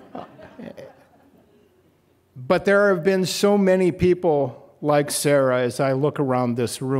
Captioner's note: laughter